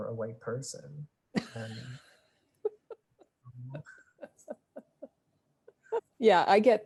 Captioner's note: laughing